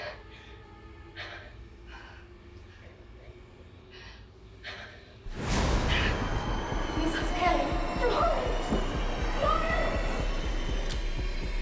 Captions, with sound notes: [Strong Wind] - [Ghostly Voice] Mrs Kelly? - Florence? FLORENCE!